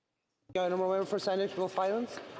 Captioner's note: speaking French